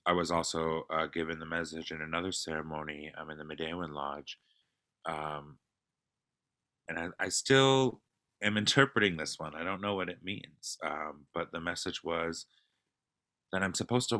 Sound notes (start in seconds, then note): 4.0 non-english speech